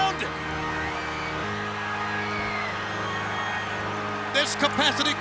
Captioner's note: audience cheering